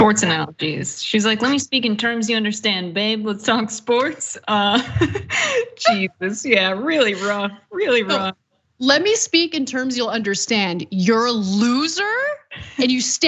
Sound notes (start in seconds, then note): 4.7 laugh